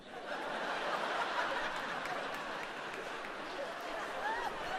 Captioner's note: audience laughs